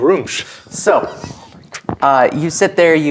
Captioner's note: quietly